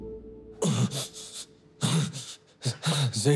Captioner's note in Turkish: İnliyor